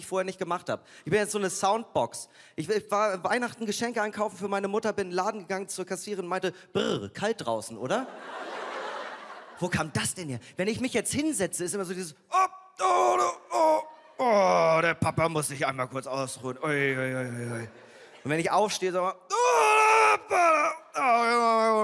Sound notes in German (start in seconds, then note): 9.2 Lachen; 12.7 Ächzen; 19.3 Lautes Ächzen